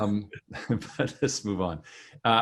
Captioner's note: laughs